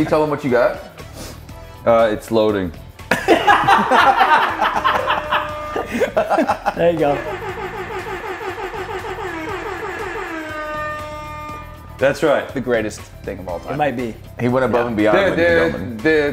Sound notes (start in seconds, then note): 0.5 laugh; 6.0 laugh